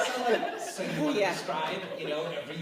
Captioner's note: laughter